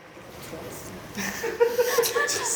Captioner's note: the students are whispering to one another